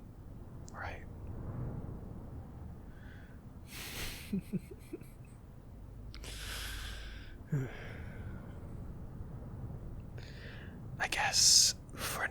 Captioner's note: laughs to self